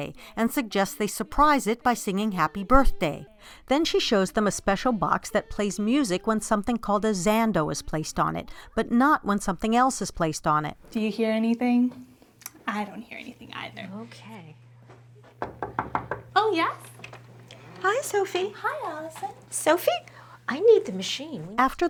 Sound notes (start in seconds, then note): 15.3 knocking